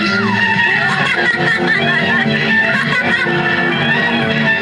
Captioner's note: laughing